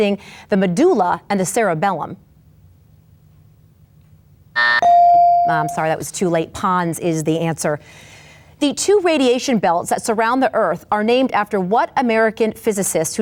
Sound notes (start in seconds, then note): 4.6 timer buzzes; 4.8 bell dings